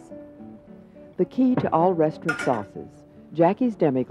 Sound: voiceover

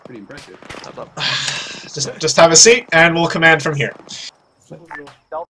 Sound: content sigh

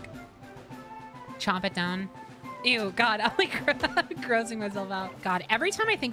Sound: laugh

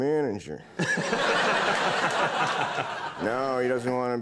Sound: audience laughing

